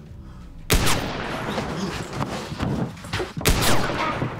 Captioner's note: tense music; gunshots blasting